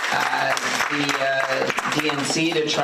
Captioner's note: applause